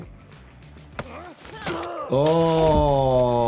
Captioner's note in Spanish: gruñido de soldado